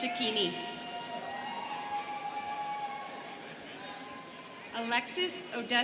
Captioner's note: students cheering